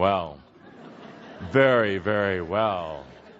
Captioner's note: laughter